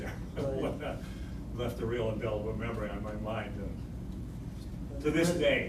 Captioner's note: laughs